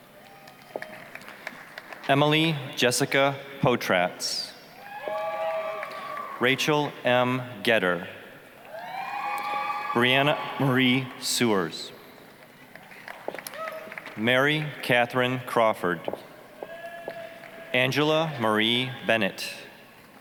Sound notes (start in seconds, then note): 0.1 applause, cheering; 4.8 applause, cheering; 8.7 applause, cheering; 12.4 applause; 17.1 applause, cheering